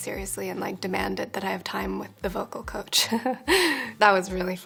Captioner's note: laughs